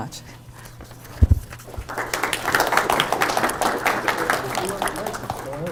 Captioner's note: audience applauding